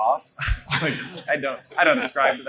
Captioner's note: laughing